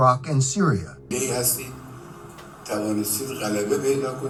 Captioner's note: speaking in a foreign language